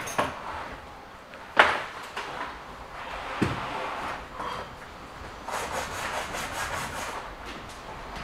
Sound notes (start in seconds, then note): 5.4 rubbing noise